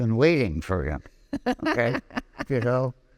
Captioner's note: laughing